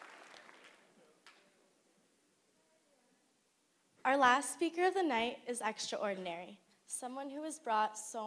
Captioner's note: applause